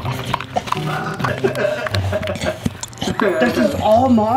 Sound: laughing; snorting

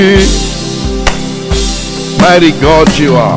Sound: claps

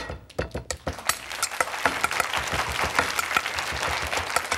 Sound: audience applause

